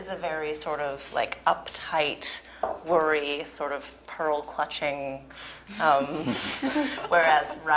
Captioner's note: laugh